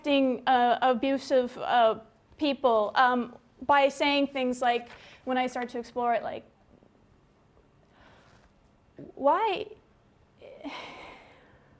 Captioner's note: pause